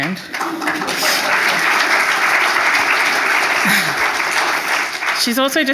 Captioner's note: audience applauding